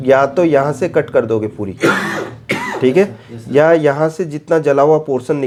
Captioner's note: coughing sound; sound of clearing throat